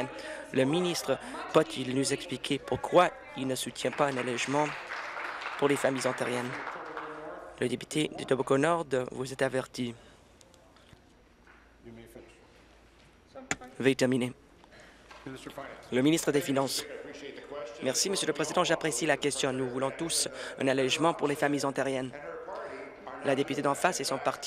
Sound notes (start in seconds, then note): 7.2 applause